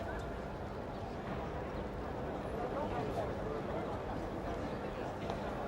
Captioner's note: people chattering